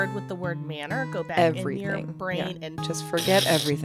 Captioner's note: slicing sound